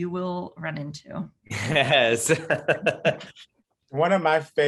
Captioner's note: laughing